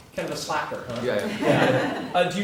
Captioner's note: laugh